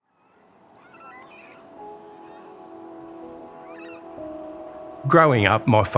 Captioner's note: birds chirping; gentle music